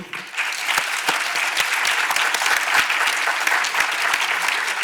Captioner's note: audience applauds